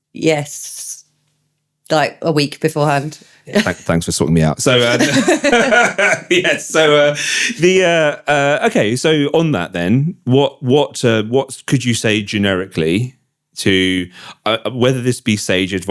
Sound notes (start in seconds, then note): 4.6 laughing